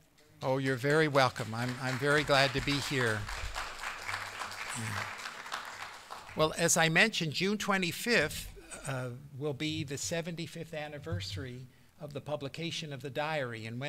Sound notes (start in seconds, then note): 3.3 applause